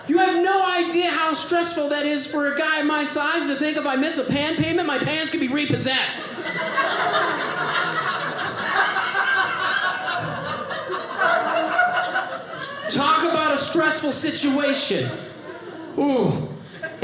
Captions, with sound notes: You have no idea how stressful that is for a guy my size to think of I miss a pant payment, my pans getting repossessed. (audience laughing) Talk about a stressful situation, oh.